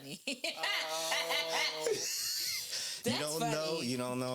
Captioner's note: laughing